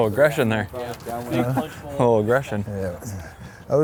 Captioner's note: laughs